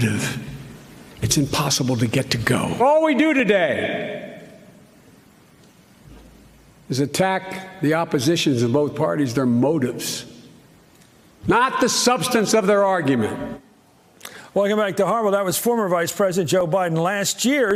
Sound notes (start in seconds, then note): 13.3 Chris Matthews speaking